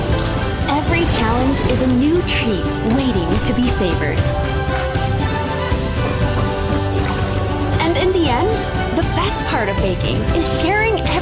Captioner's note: applause